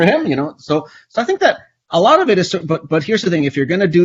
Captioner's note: stammers